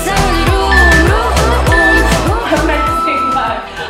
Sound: timer beeping

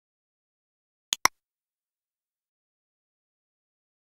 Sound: sound of mouse click

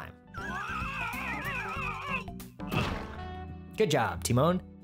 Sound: screaming

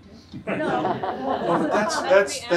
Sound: audience laughs

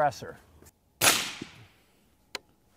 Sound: rifle fires

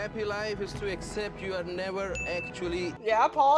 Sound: ding

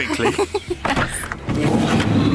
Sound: laughing

